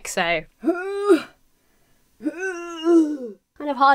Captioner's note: grunts with effort